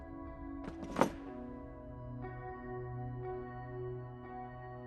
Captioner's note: chair clattering